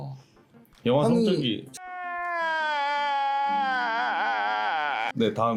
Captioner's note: crying / boom!